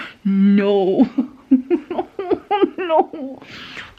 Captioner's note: laughs in 'big regret'